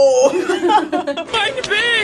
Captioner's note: girls laughing